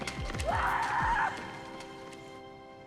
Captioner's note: yells; elegant music